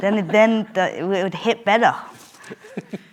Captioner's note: laughs